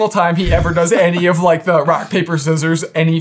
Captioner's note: laughing